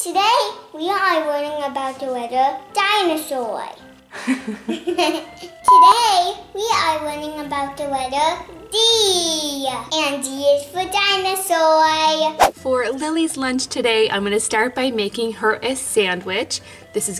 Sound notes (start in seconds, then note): 4.0 laughs; 5.6 beep